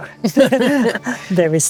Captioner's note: laughter